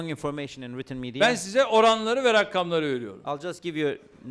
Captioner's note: non-english speech